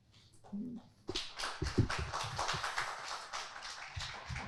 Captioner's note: audience applauding